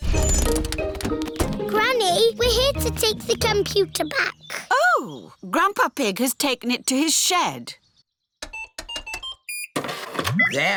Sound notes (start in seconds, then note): none